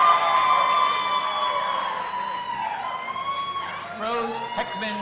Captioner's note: audience applauding and cheering